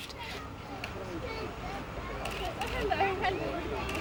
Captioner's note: crowd chattering